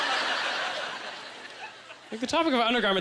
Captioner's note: audience laughter